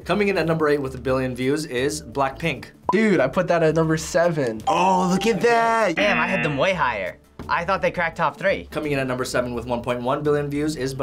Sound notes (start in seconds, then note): 4.6 bell rings; 6.0 buzzer rings